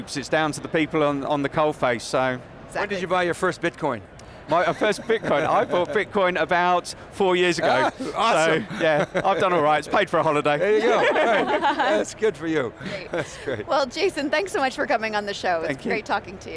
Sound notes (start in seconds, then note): 10.6 laughing